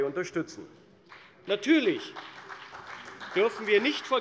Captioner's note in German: Beifall bei der CDU und dem BÜNDNIS 90/DIE GRÜNEN